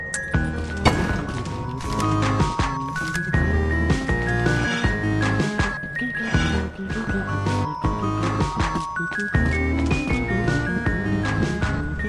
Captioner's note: humming along the music